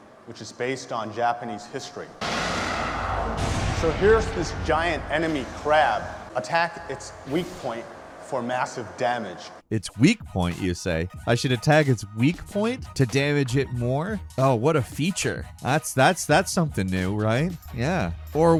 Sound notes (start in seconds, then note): 2.2 giant crab whooshing and thudding